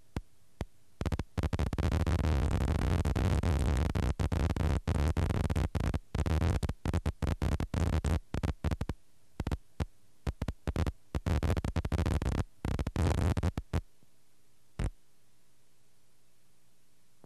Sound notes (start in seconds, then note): none